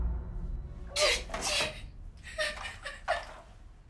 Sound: crying

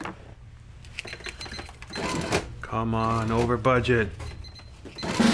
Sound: cash register beeping and whirring; drum roll

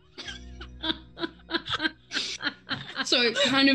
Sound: group laughs

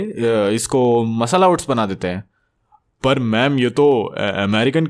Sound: none

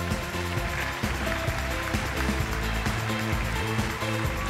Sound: applause

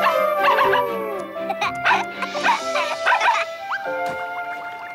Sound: barking; howling; laughing; barking

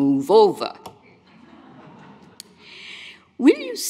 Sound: audience laughs

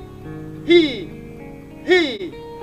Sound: exhales

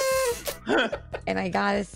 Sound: laughter; honks

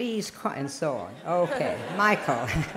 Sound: laughter

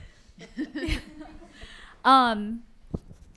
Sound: laughing

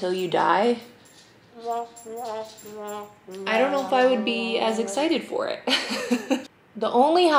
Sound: laughs

